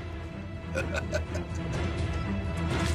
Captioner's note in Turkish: Gülme sesleri